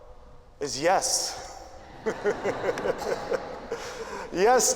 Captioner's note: laughter